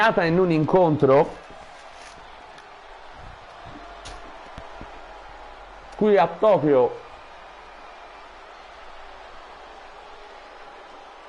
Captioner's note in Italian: Applauso